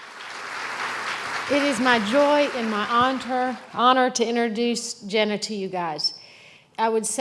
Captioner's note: applause